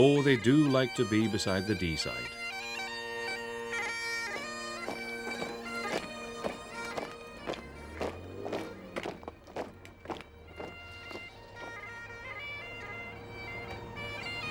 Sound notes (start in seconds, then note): 0.0 lively bagpipe music; 2.9 lively bagpipe music; 6.3 footsteps rhythmically pattering